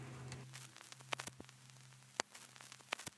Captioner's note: static